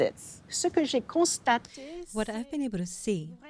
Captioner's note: speaking French